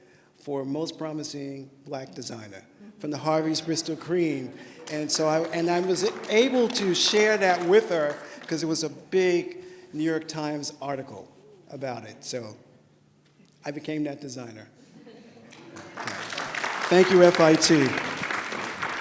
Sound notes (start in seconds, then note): 4.5 applause; 15.5 applause